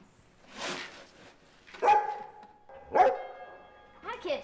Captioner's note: barking